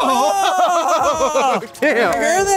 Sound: laughing

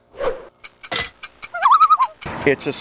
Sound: loon call

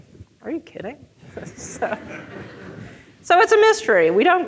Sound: audience laughing

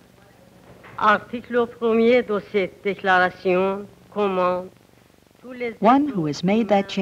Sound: non-English speech

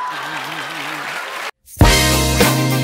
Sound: audience laughing; audience applauding; upbeat music

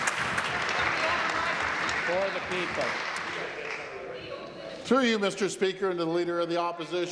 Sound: applause

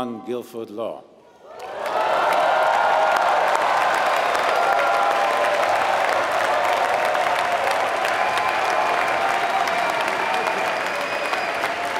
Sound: applause

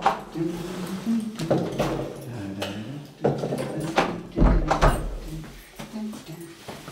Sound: humming about a German song

